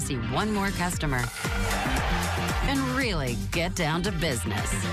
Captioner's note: audience cheering